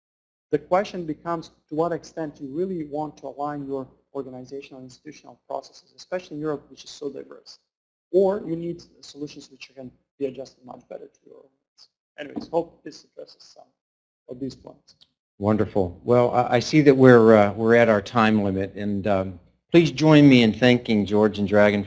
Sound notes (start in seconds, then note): 15.5 voiceover